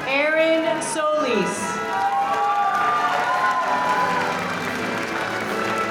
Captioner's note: audience applauding